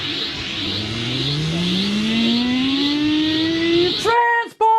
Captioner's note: video game sounds